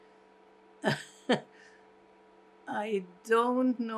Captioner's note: laughing